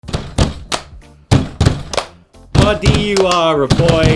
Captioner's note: clapping and banging table